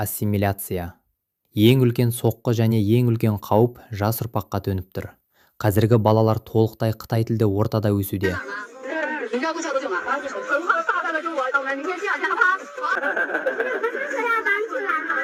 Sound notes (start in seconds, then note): 10.7 laughter